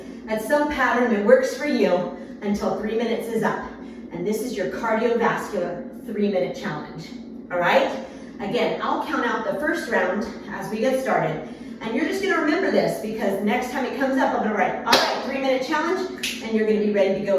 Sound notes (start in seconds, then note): 14.9 slaps hands; 16.2 snaps fingers